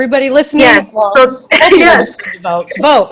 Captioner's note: giggling